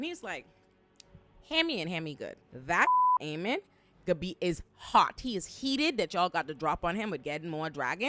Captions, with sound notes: And he's like, hand me and hand me good. That (beep) Aemond is hot. He is heated that y'all got the drop on him with getting more dragons.